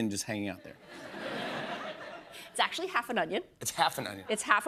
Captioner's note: laughter